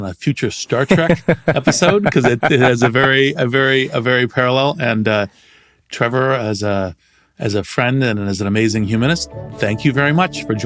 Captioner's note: laugh